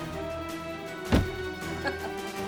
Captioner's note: thud; laughs